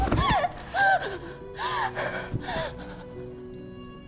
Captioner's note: Tyler's body thumps; Kira sobbing; gentle solemn music continues